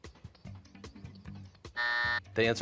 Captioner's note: buzzer